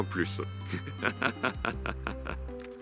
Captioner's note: laughs